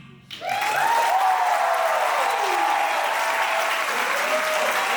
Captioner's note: audience applauding